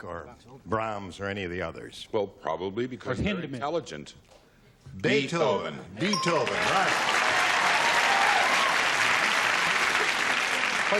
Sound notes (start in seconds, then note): 6.0 ding; 6.4 applause